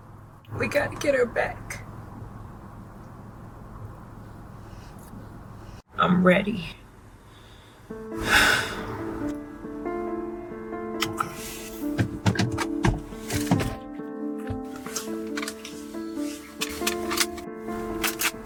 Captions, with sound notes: - We gotta get her back. I'm ready. (Raquel sighs) (Somber music) - Okay. (Glove compartment clicks) (Gun clicking)